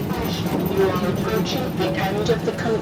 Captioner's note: automated Voice